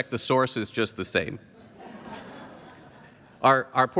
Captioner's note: laughter